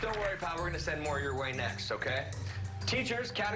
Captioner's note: applause